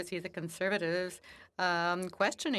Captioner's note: speaking French